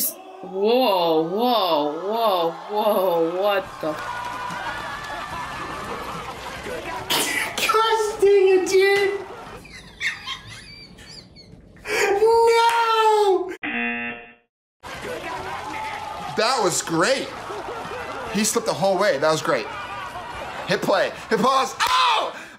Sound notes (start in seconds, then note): 9.1 laughs; 13.6 buzzer; 14.9 claps